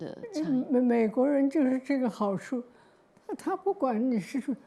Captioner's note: Mandarin